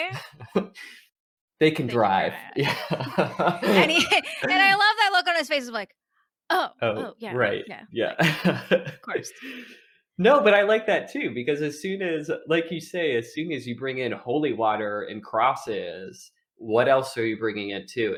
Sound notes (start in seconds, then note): 2.6 laughter